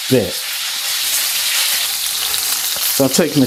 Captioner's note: sizzlin